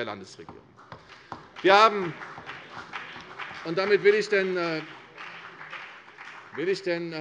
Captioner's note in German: Beifall CDU und BÜNDNIS 90/DIE GRÜNEN